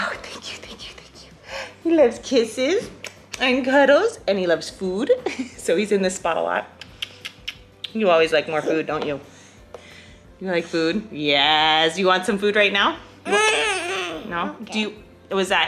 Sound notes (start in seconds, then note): 3.0 kissing cheek; 6.7 kissing